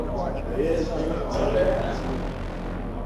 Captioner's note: inmates chattering